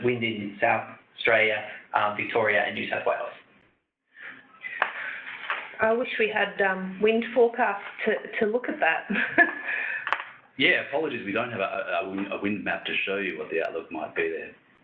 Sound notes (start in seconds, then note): 9.1 laughs